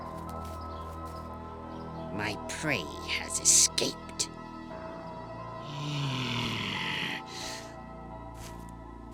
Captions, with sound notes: My prey has escaped... (groaning)